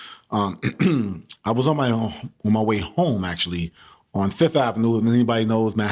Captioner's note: clears throat